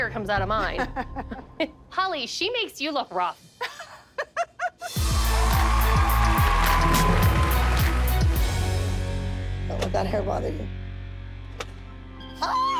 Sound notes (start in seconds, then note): 0.6 laughter; 3.5 laughs; 4.9 cheering and applause